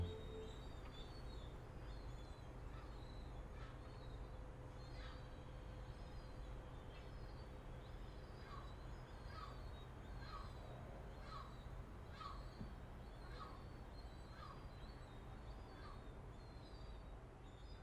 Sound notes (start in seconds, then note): 2.1 sound of birds and the city